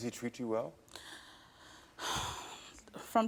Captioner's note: grunts